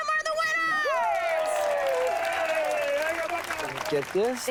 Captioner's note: cheers, applause